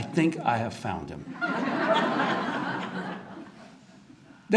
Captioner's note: audience laughter